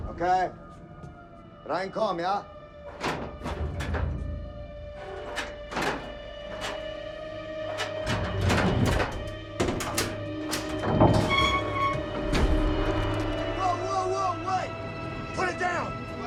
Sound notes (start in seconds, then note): 1.6 Sinclair speaking in foreign language; 3.2 levers clanging; 3.2 tense music; 11.0 door creaking; 11.0 tense music